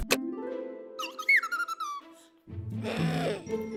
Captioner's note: chirps